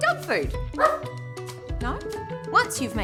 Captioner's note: dog offscreen